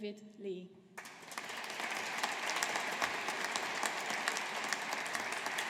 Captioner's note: audience applauding